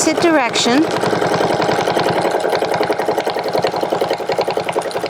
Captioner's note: machine whirring